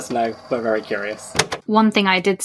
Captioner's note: tape recorder clicks off